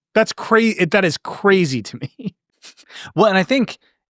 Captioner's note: laughing